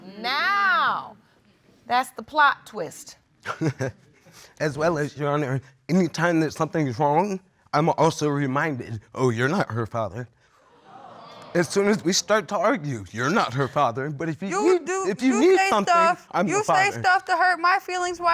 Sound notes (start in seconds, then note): 3.5 laughs